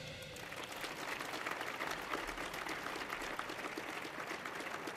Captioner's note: audience applauding